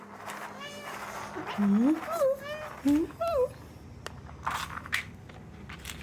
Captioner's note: rattling cat treats; expectant meows